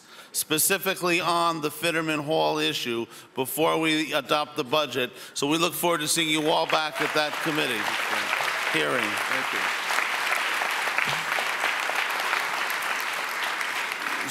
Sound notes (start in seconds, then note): 8.5 audience applauds